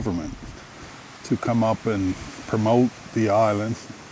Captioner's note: water gurgling